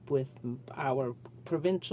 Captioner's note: speaking French